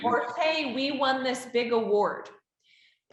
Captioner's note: chuckles